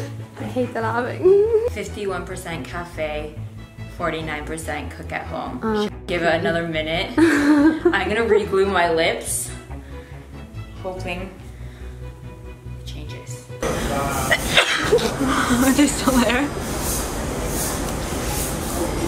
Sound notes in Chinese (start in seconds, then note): 14.2 打噴嚏